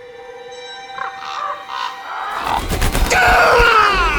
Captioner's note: crows cawing; driver screaming